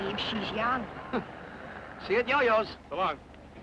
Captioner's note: chuckles